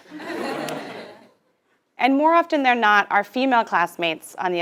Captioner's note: laugh